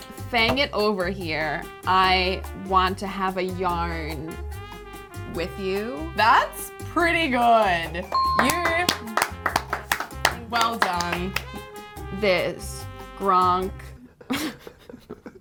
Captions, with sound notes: - Fang it over here, I want to have a yarn with you. - That's pretty good. (dinging) You (clapping) well done. - This gronk (laughing)